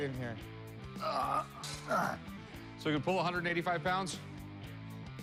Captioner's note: grunting